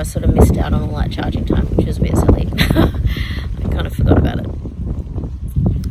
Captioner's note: scoffs